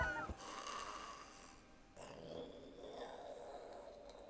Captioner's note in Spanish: ronquidos